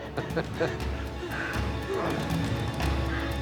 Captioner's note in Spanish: Risas